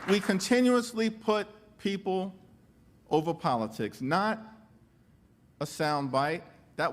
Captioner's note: applause